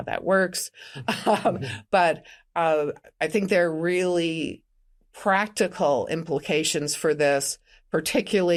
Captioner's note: chuckles